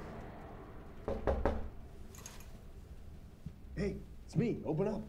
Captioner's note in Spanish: Llaman a la puerta